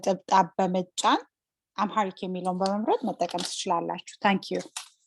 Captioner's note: speaking Amharic